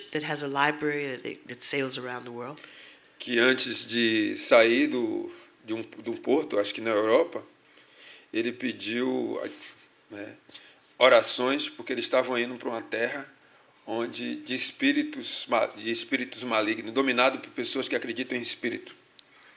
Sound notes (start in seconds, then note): 8.3 speaking portuguese